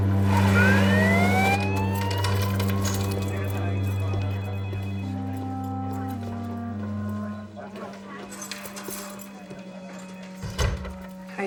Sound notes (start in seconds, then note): 0.6 police sirens; 3.8 chattering; 3.8 phones ringing